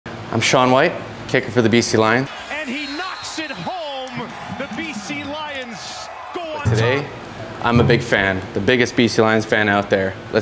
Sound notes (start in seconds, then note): 3.9 applause